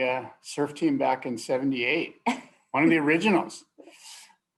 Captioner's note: laughter